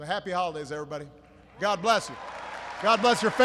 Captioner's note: applause